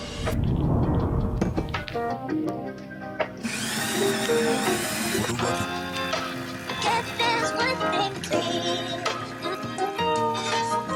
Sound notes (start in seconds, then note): 3.4 coffee blending